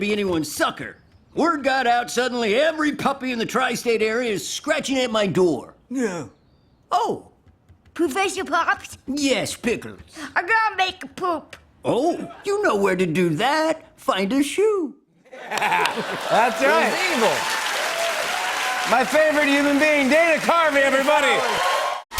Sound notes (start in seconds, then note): 15.3 laughs; 15.4 cheers and applause